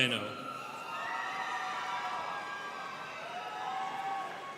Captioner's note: students cheering